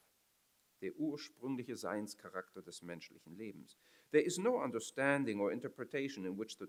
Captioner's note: foreign language